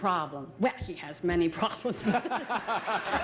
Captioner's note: Bert laughing